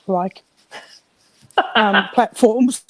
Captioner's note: chuckles